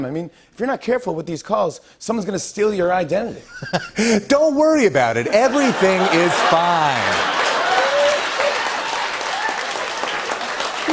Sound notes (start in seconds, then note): 5.4 laughs; 7.2 laughter and applause